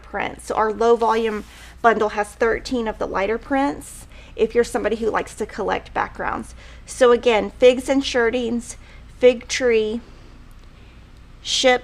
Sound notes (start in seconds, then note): none